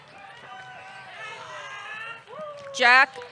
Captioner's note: audience cheering